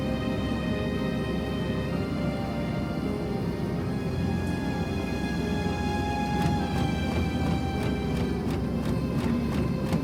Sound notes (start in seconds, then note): 0.1 gentle upbeat music; 3.2 car engine stalling; 6.6 dramatic music